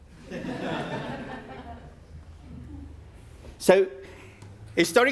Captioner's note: audience laughing